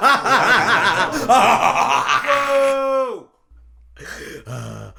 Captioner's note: mass groaning